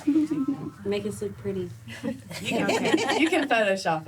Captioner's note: laughter